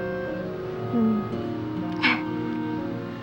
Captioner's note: laughs